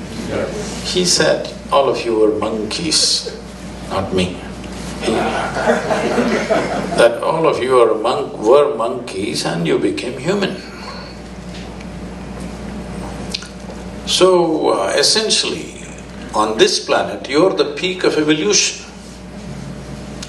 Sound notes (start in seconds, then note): 5.1 laughter